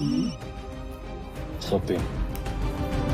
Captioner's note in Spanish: Suena el celular